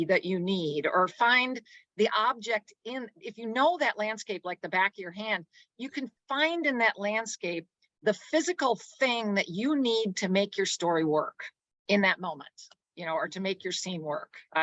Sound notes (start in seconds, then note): none